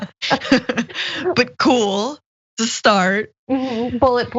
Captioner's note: laugh